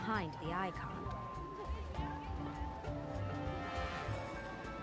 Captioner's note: indistinct chatter